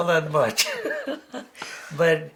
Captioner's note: chuckling